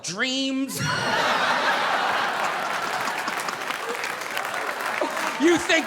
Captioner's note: audience laughing; audience applauding